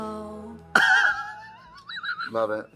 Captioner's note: Katya laughs